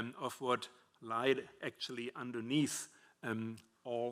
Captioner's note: none